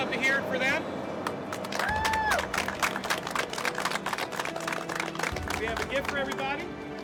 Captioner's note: applause